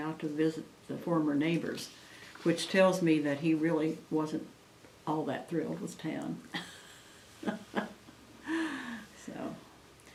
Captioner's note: laughs